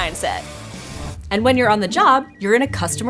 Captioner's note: phones ringing